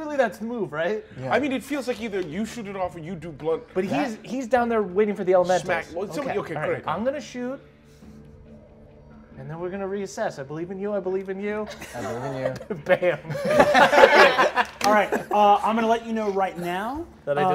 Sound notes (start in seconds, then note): 11.8 all laugh